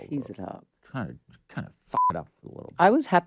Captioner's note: beep